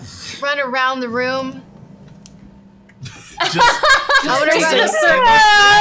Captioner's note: laughing